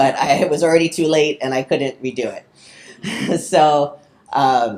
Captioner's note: chuckles